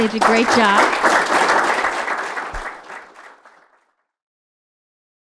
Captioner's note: audience applauds